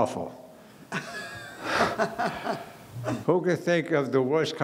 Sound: laughing

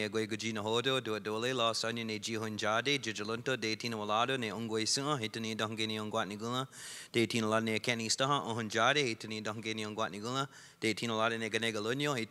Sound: speaking Indigenous Language

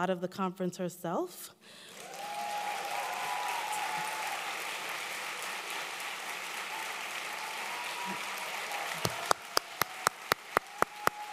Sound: applause

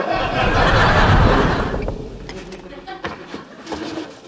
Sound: audience laughing

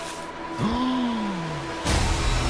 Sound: gasp

